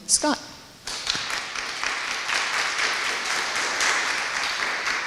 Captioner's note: audience applauding